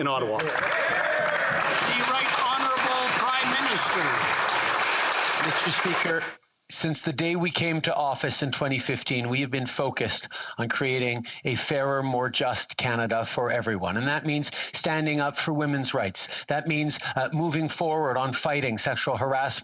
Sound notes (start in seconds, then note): 6.2 some Applause